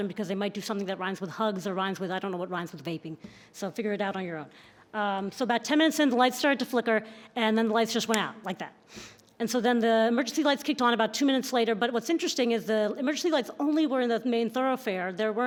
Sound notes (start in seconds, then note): none